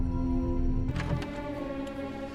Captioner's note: click